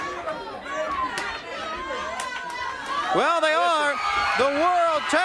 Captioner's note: crowd chatter